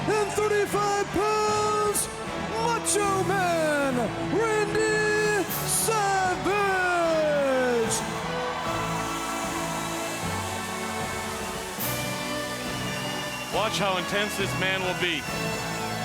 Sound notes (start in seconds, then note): 7.9 audience cheering; 7.9 grand triumphant music